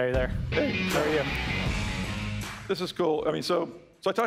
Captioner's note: applause